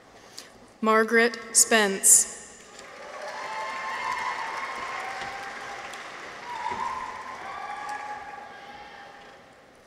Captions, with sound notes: Margaret Spence. -(people cheer) -(audience applauds)